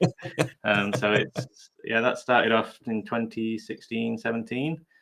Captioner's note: laughing